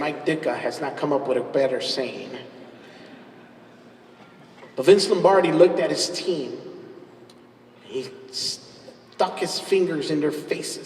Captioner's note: laughs